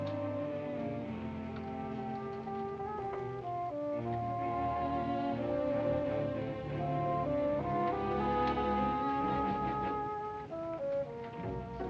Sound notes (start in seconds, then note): none